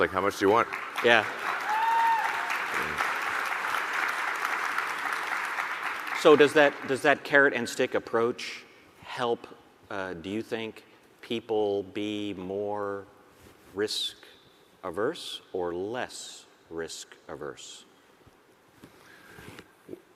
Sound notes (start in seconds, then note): 2.4 audience cheering and applauding